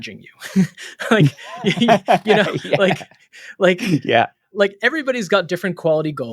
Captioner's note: laughing